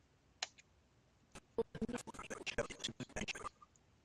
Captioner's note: audio skipping